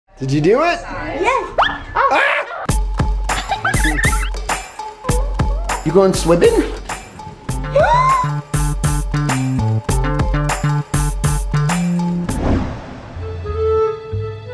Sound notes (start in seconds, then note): 3.3 children laughing; 7.7 gasping